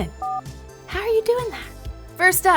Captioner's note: telephone button beeping